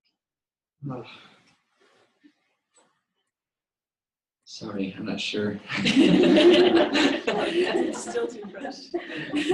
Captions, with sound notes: Sorry. I'm not sure. [LAUGHTER] It's still too fresh.